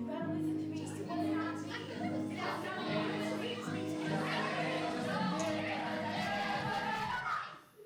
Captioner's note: chaos! Screams! Shouts! Yips! Guffaws!